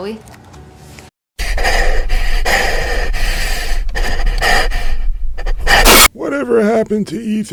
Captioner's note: heavy breathing